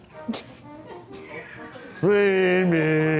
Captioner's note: crew laughs